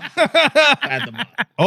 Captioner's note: laughing